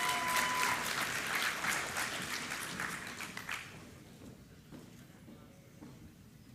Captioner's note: applause